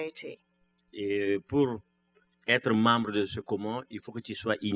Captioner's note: speaking french